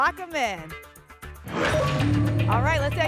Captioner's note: lock sound